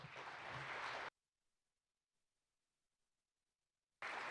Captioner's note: participants applaud